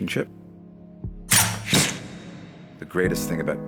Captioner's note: arrow looses